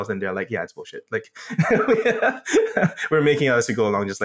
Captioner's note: laugh